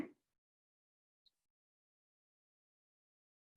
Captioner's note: silence